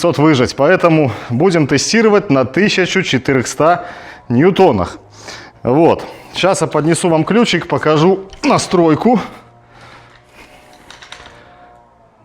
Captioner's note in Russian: фыркает